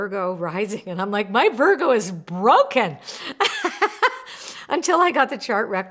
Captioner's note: laughs